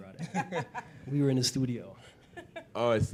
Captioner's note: laughter